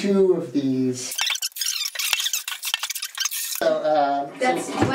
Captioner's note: squeaking